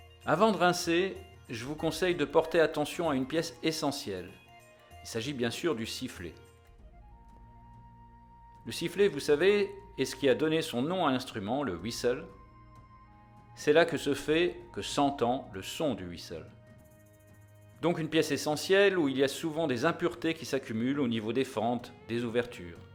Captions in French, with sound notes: Avant de rincer, je vous conseille de porter attention à une pièce essentielle : il s’agit bien sûr du sifflet. Le sifflet, vous savez, est ce qui a donné son nom à l’instrument (whistle) : c’est là que se fait, que s’entend le son du whistle. Donc une pièce essentielle où il y a souvent des impuretés qui s’accumulent au niveau des fentes, des ouvertures.